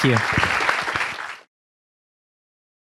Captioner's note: applause